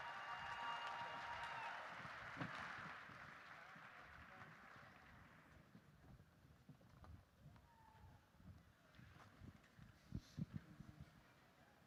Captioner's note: applause